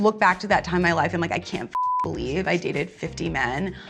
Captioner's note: beep